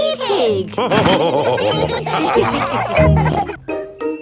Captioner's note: all laughing